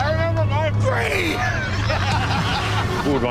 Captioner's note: laughter